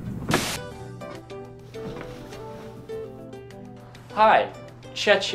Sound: TV static and lobby music

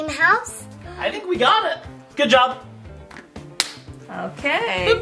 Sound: claps

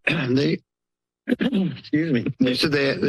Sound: clears throat

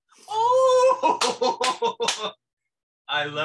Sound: laughs

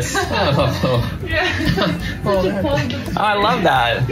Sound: laughing

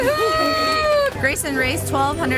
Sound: cheering

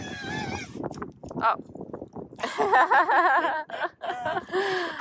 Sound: laughter

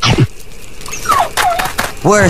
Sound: whining

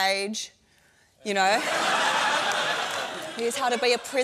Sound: laughter

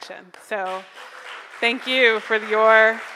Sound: crowd applauds

